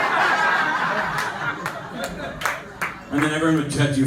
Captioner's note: laughter, clapping